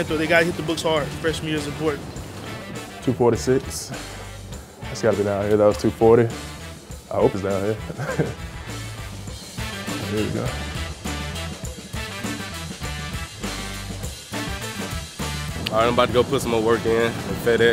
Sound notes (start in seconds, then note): 7.8 chuckles; 11.1 upbeat music